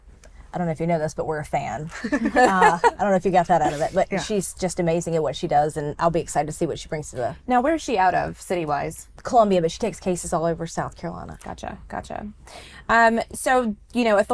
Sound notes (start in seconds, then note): 2.0 group laughs